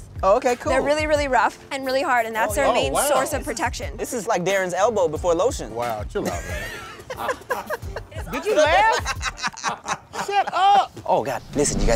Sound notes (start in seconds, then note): 6.2 laughing